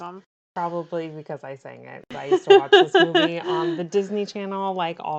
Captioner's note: laughs